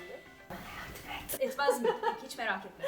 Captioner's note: whispering